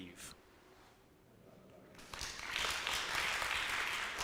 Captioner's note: audience applauds